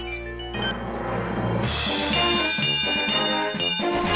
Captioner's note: bell clanging